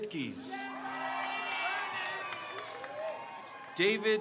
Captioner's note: crowd cheers